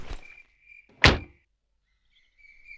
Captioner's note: car Door Closes